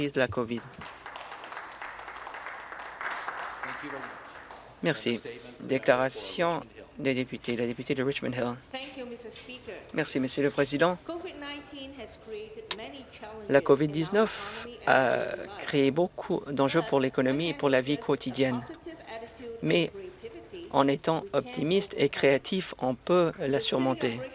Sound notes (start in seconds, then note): 5.1 some Applause